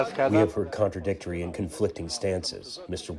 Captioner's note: through translator